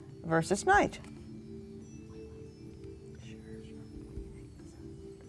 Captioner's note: whispering